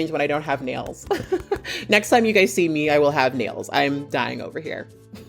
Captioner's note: chuckles